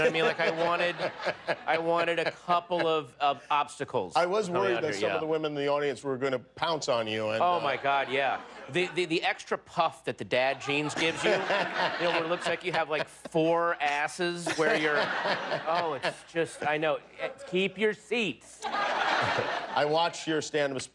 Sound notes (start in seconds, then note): 2.6 laughter